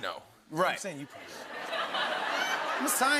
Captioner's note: laughter